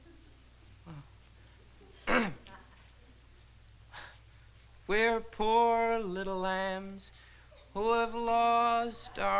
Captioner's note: cough